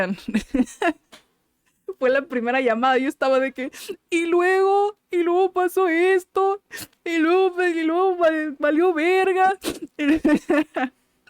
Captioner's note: sobbing like a child